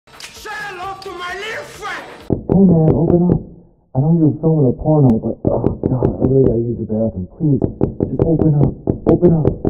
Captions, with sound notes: Say hello to my little friend! [knocking] Hey man! Open up! I know you're filming a porno but [knocking] Ugh god! [knocking] Ugh god! [knocking] I need to use your bathroom Please! [knocking] Just open up! [knocking] Open up!